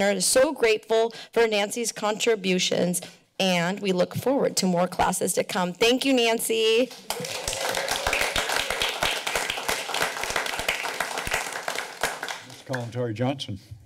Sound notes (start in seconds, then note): 11.0 applause